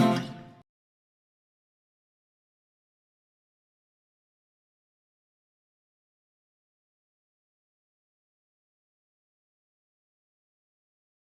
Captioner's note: silence